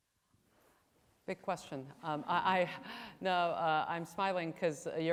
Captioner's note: laughs